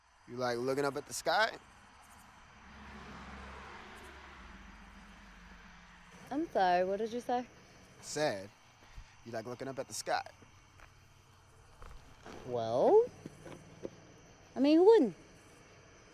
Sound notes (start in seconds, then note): 2.4 car rushes past; 2.8 crickets chirp quietly